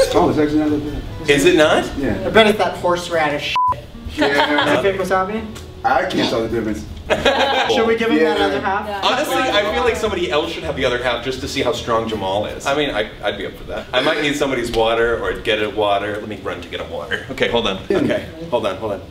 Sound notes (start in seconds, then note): 4.1 laughs; 7.0 laughs